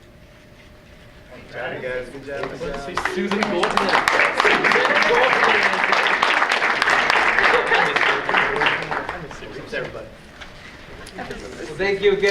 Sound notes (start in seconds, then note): 4.9 audience applauds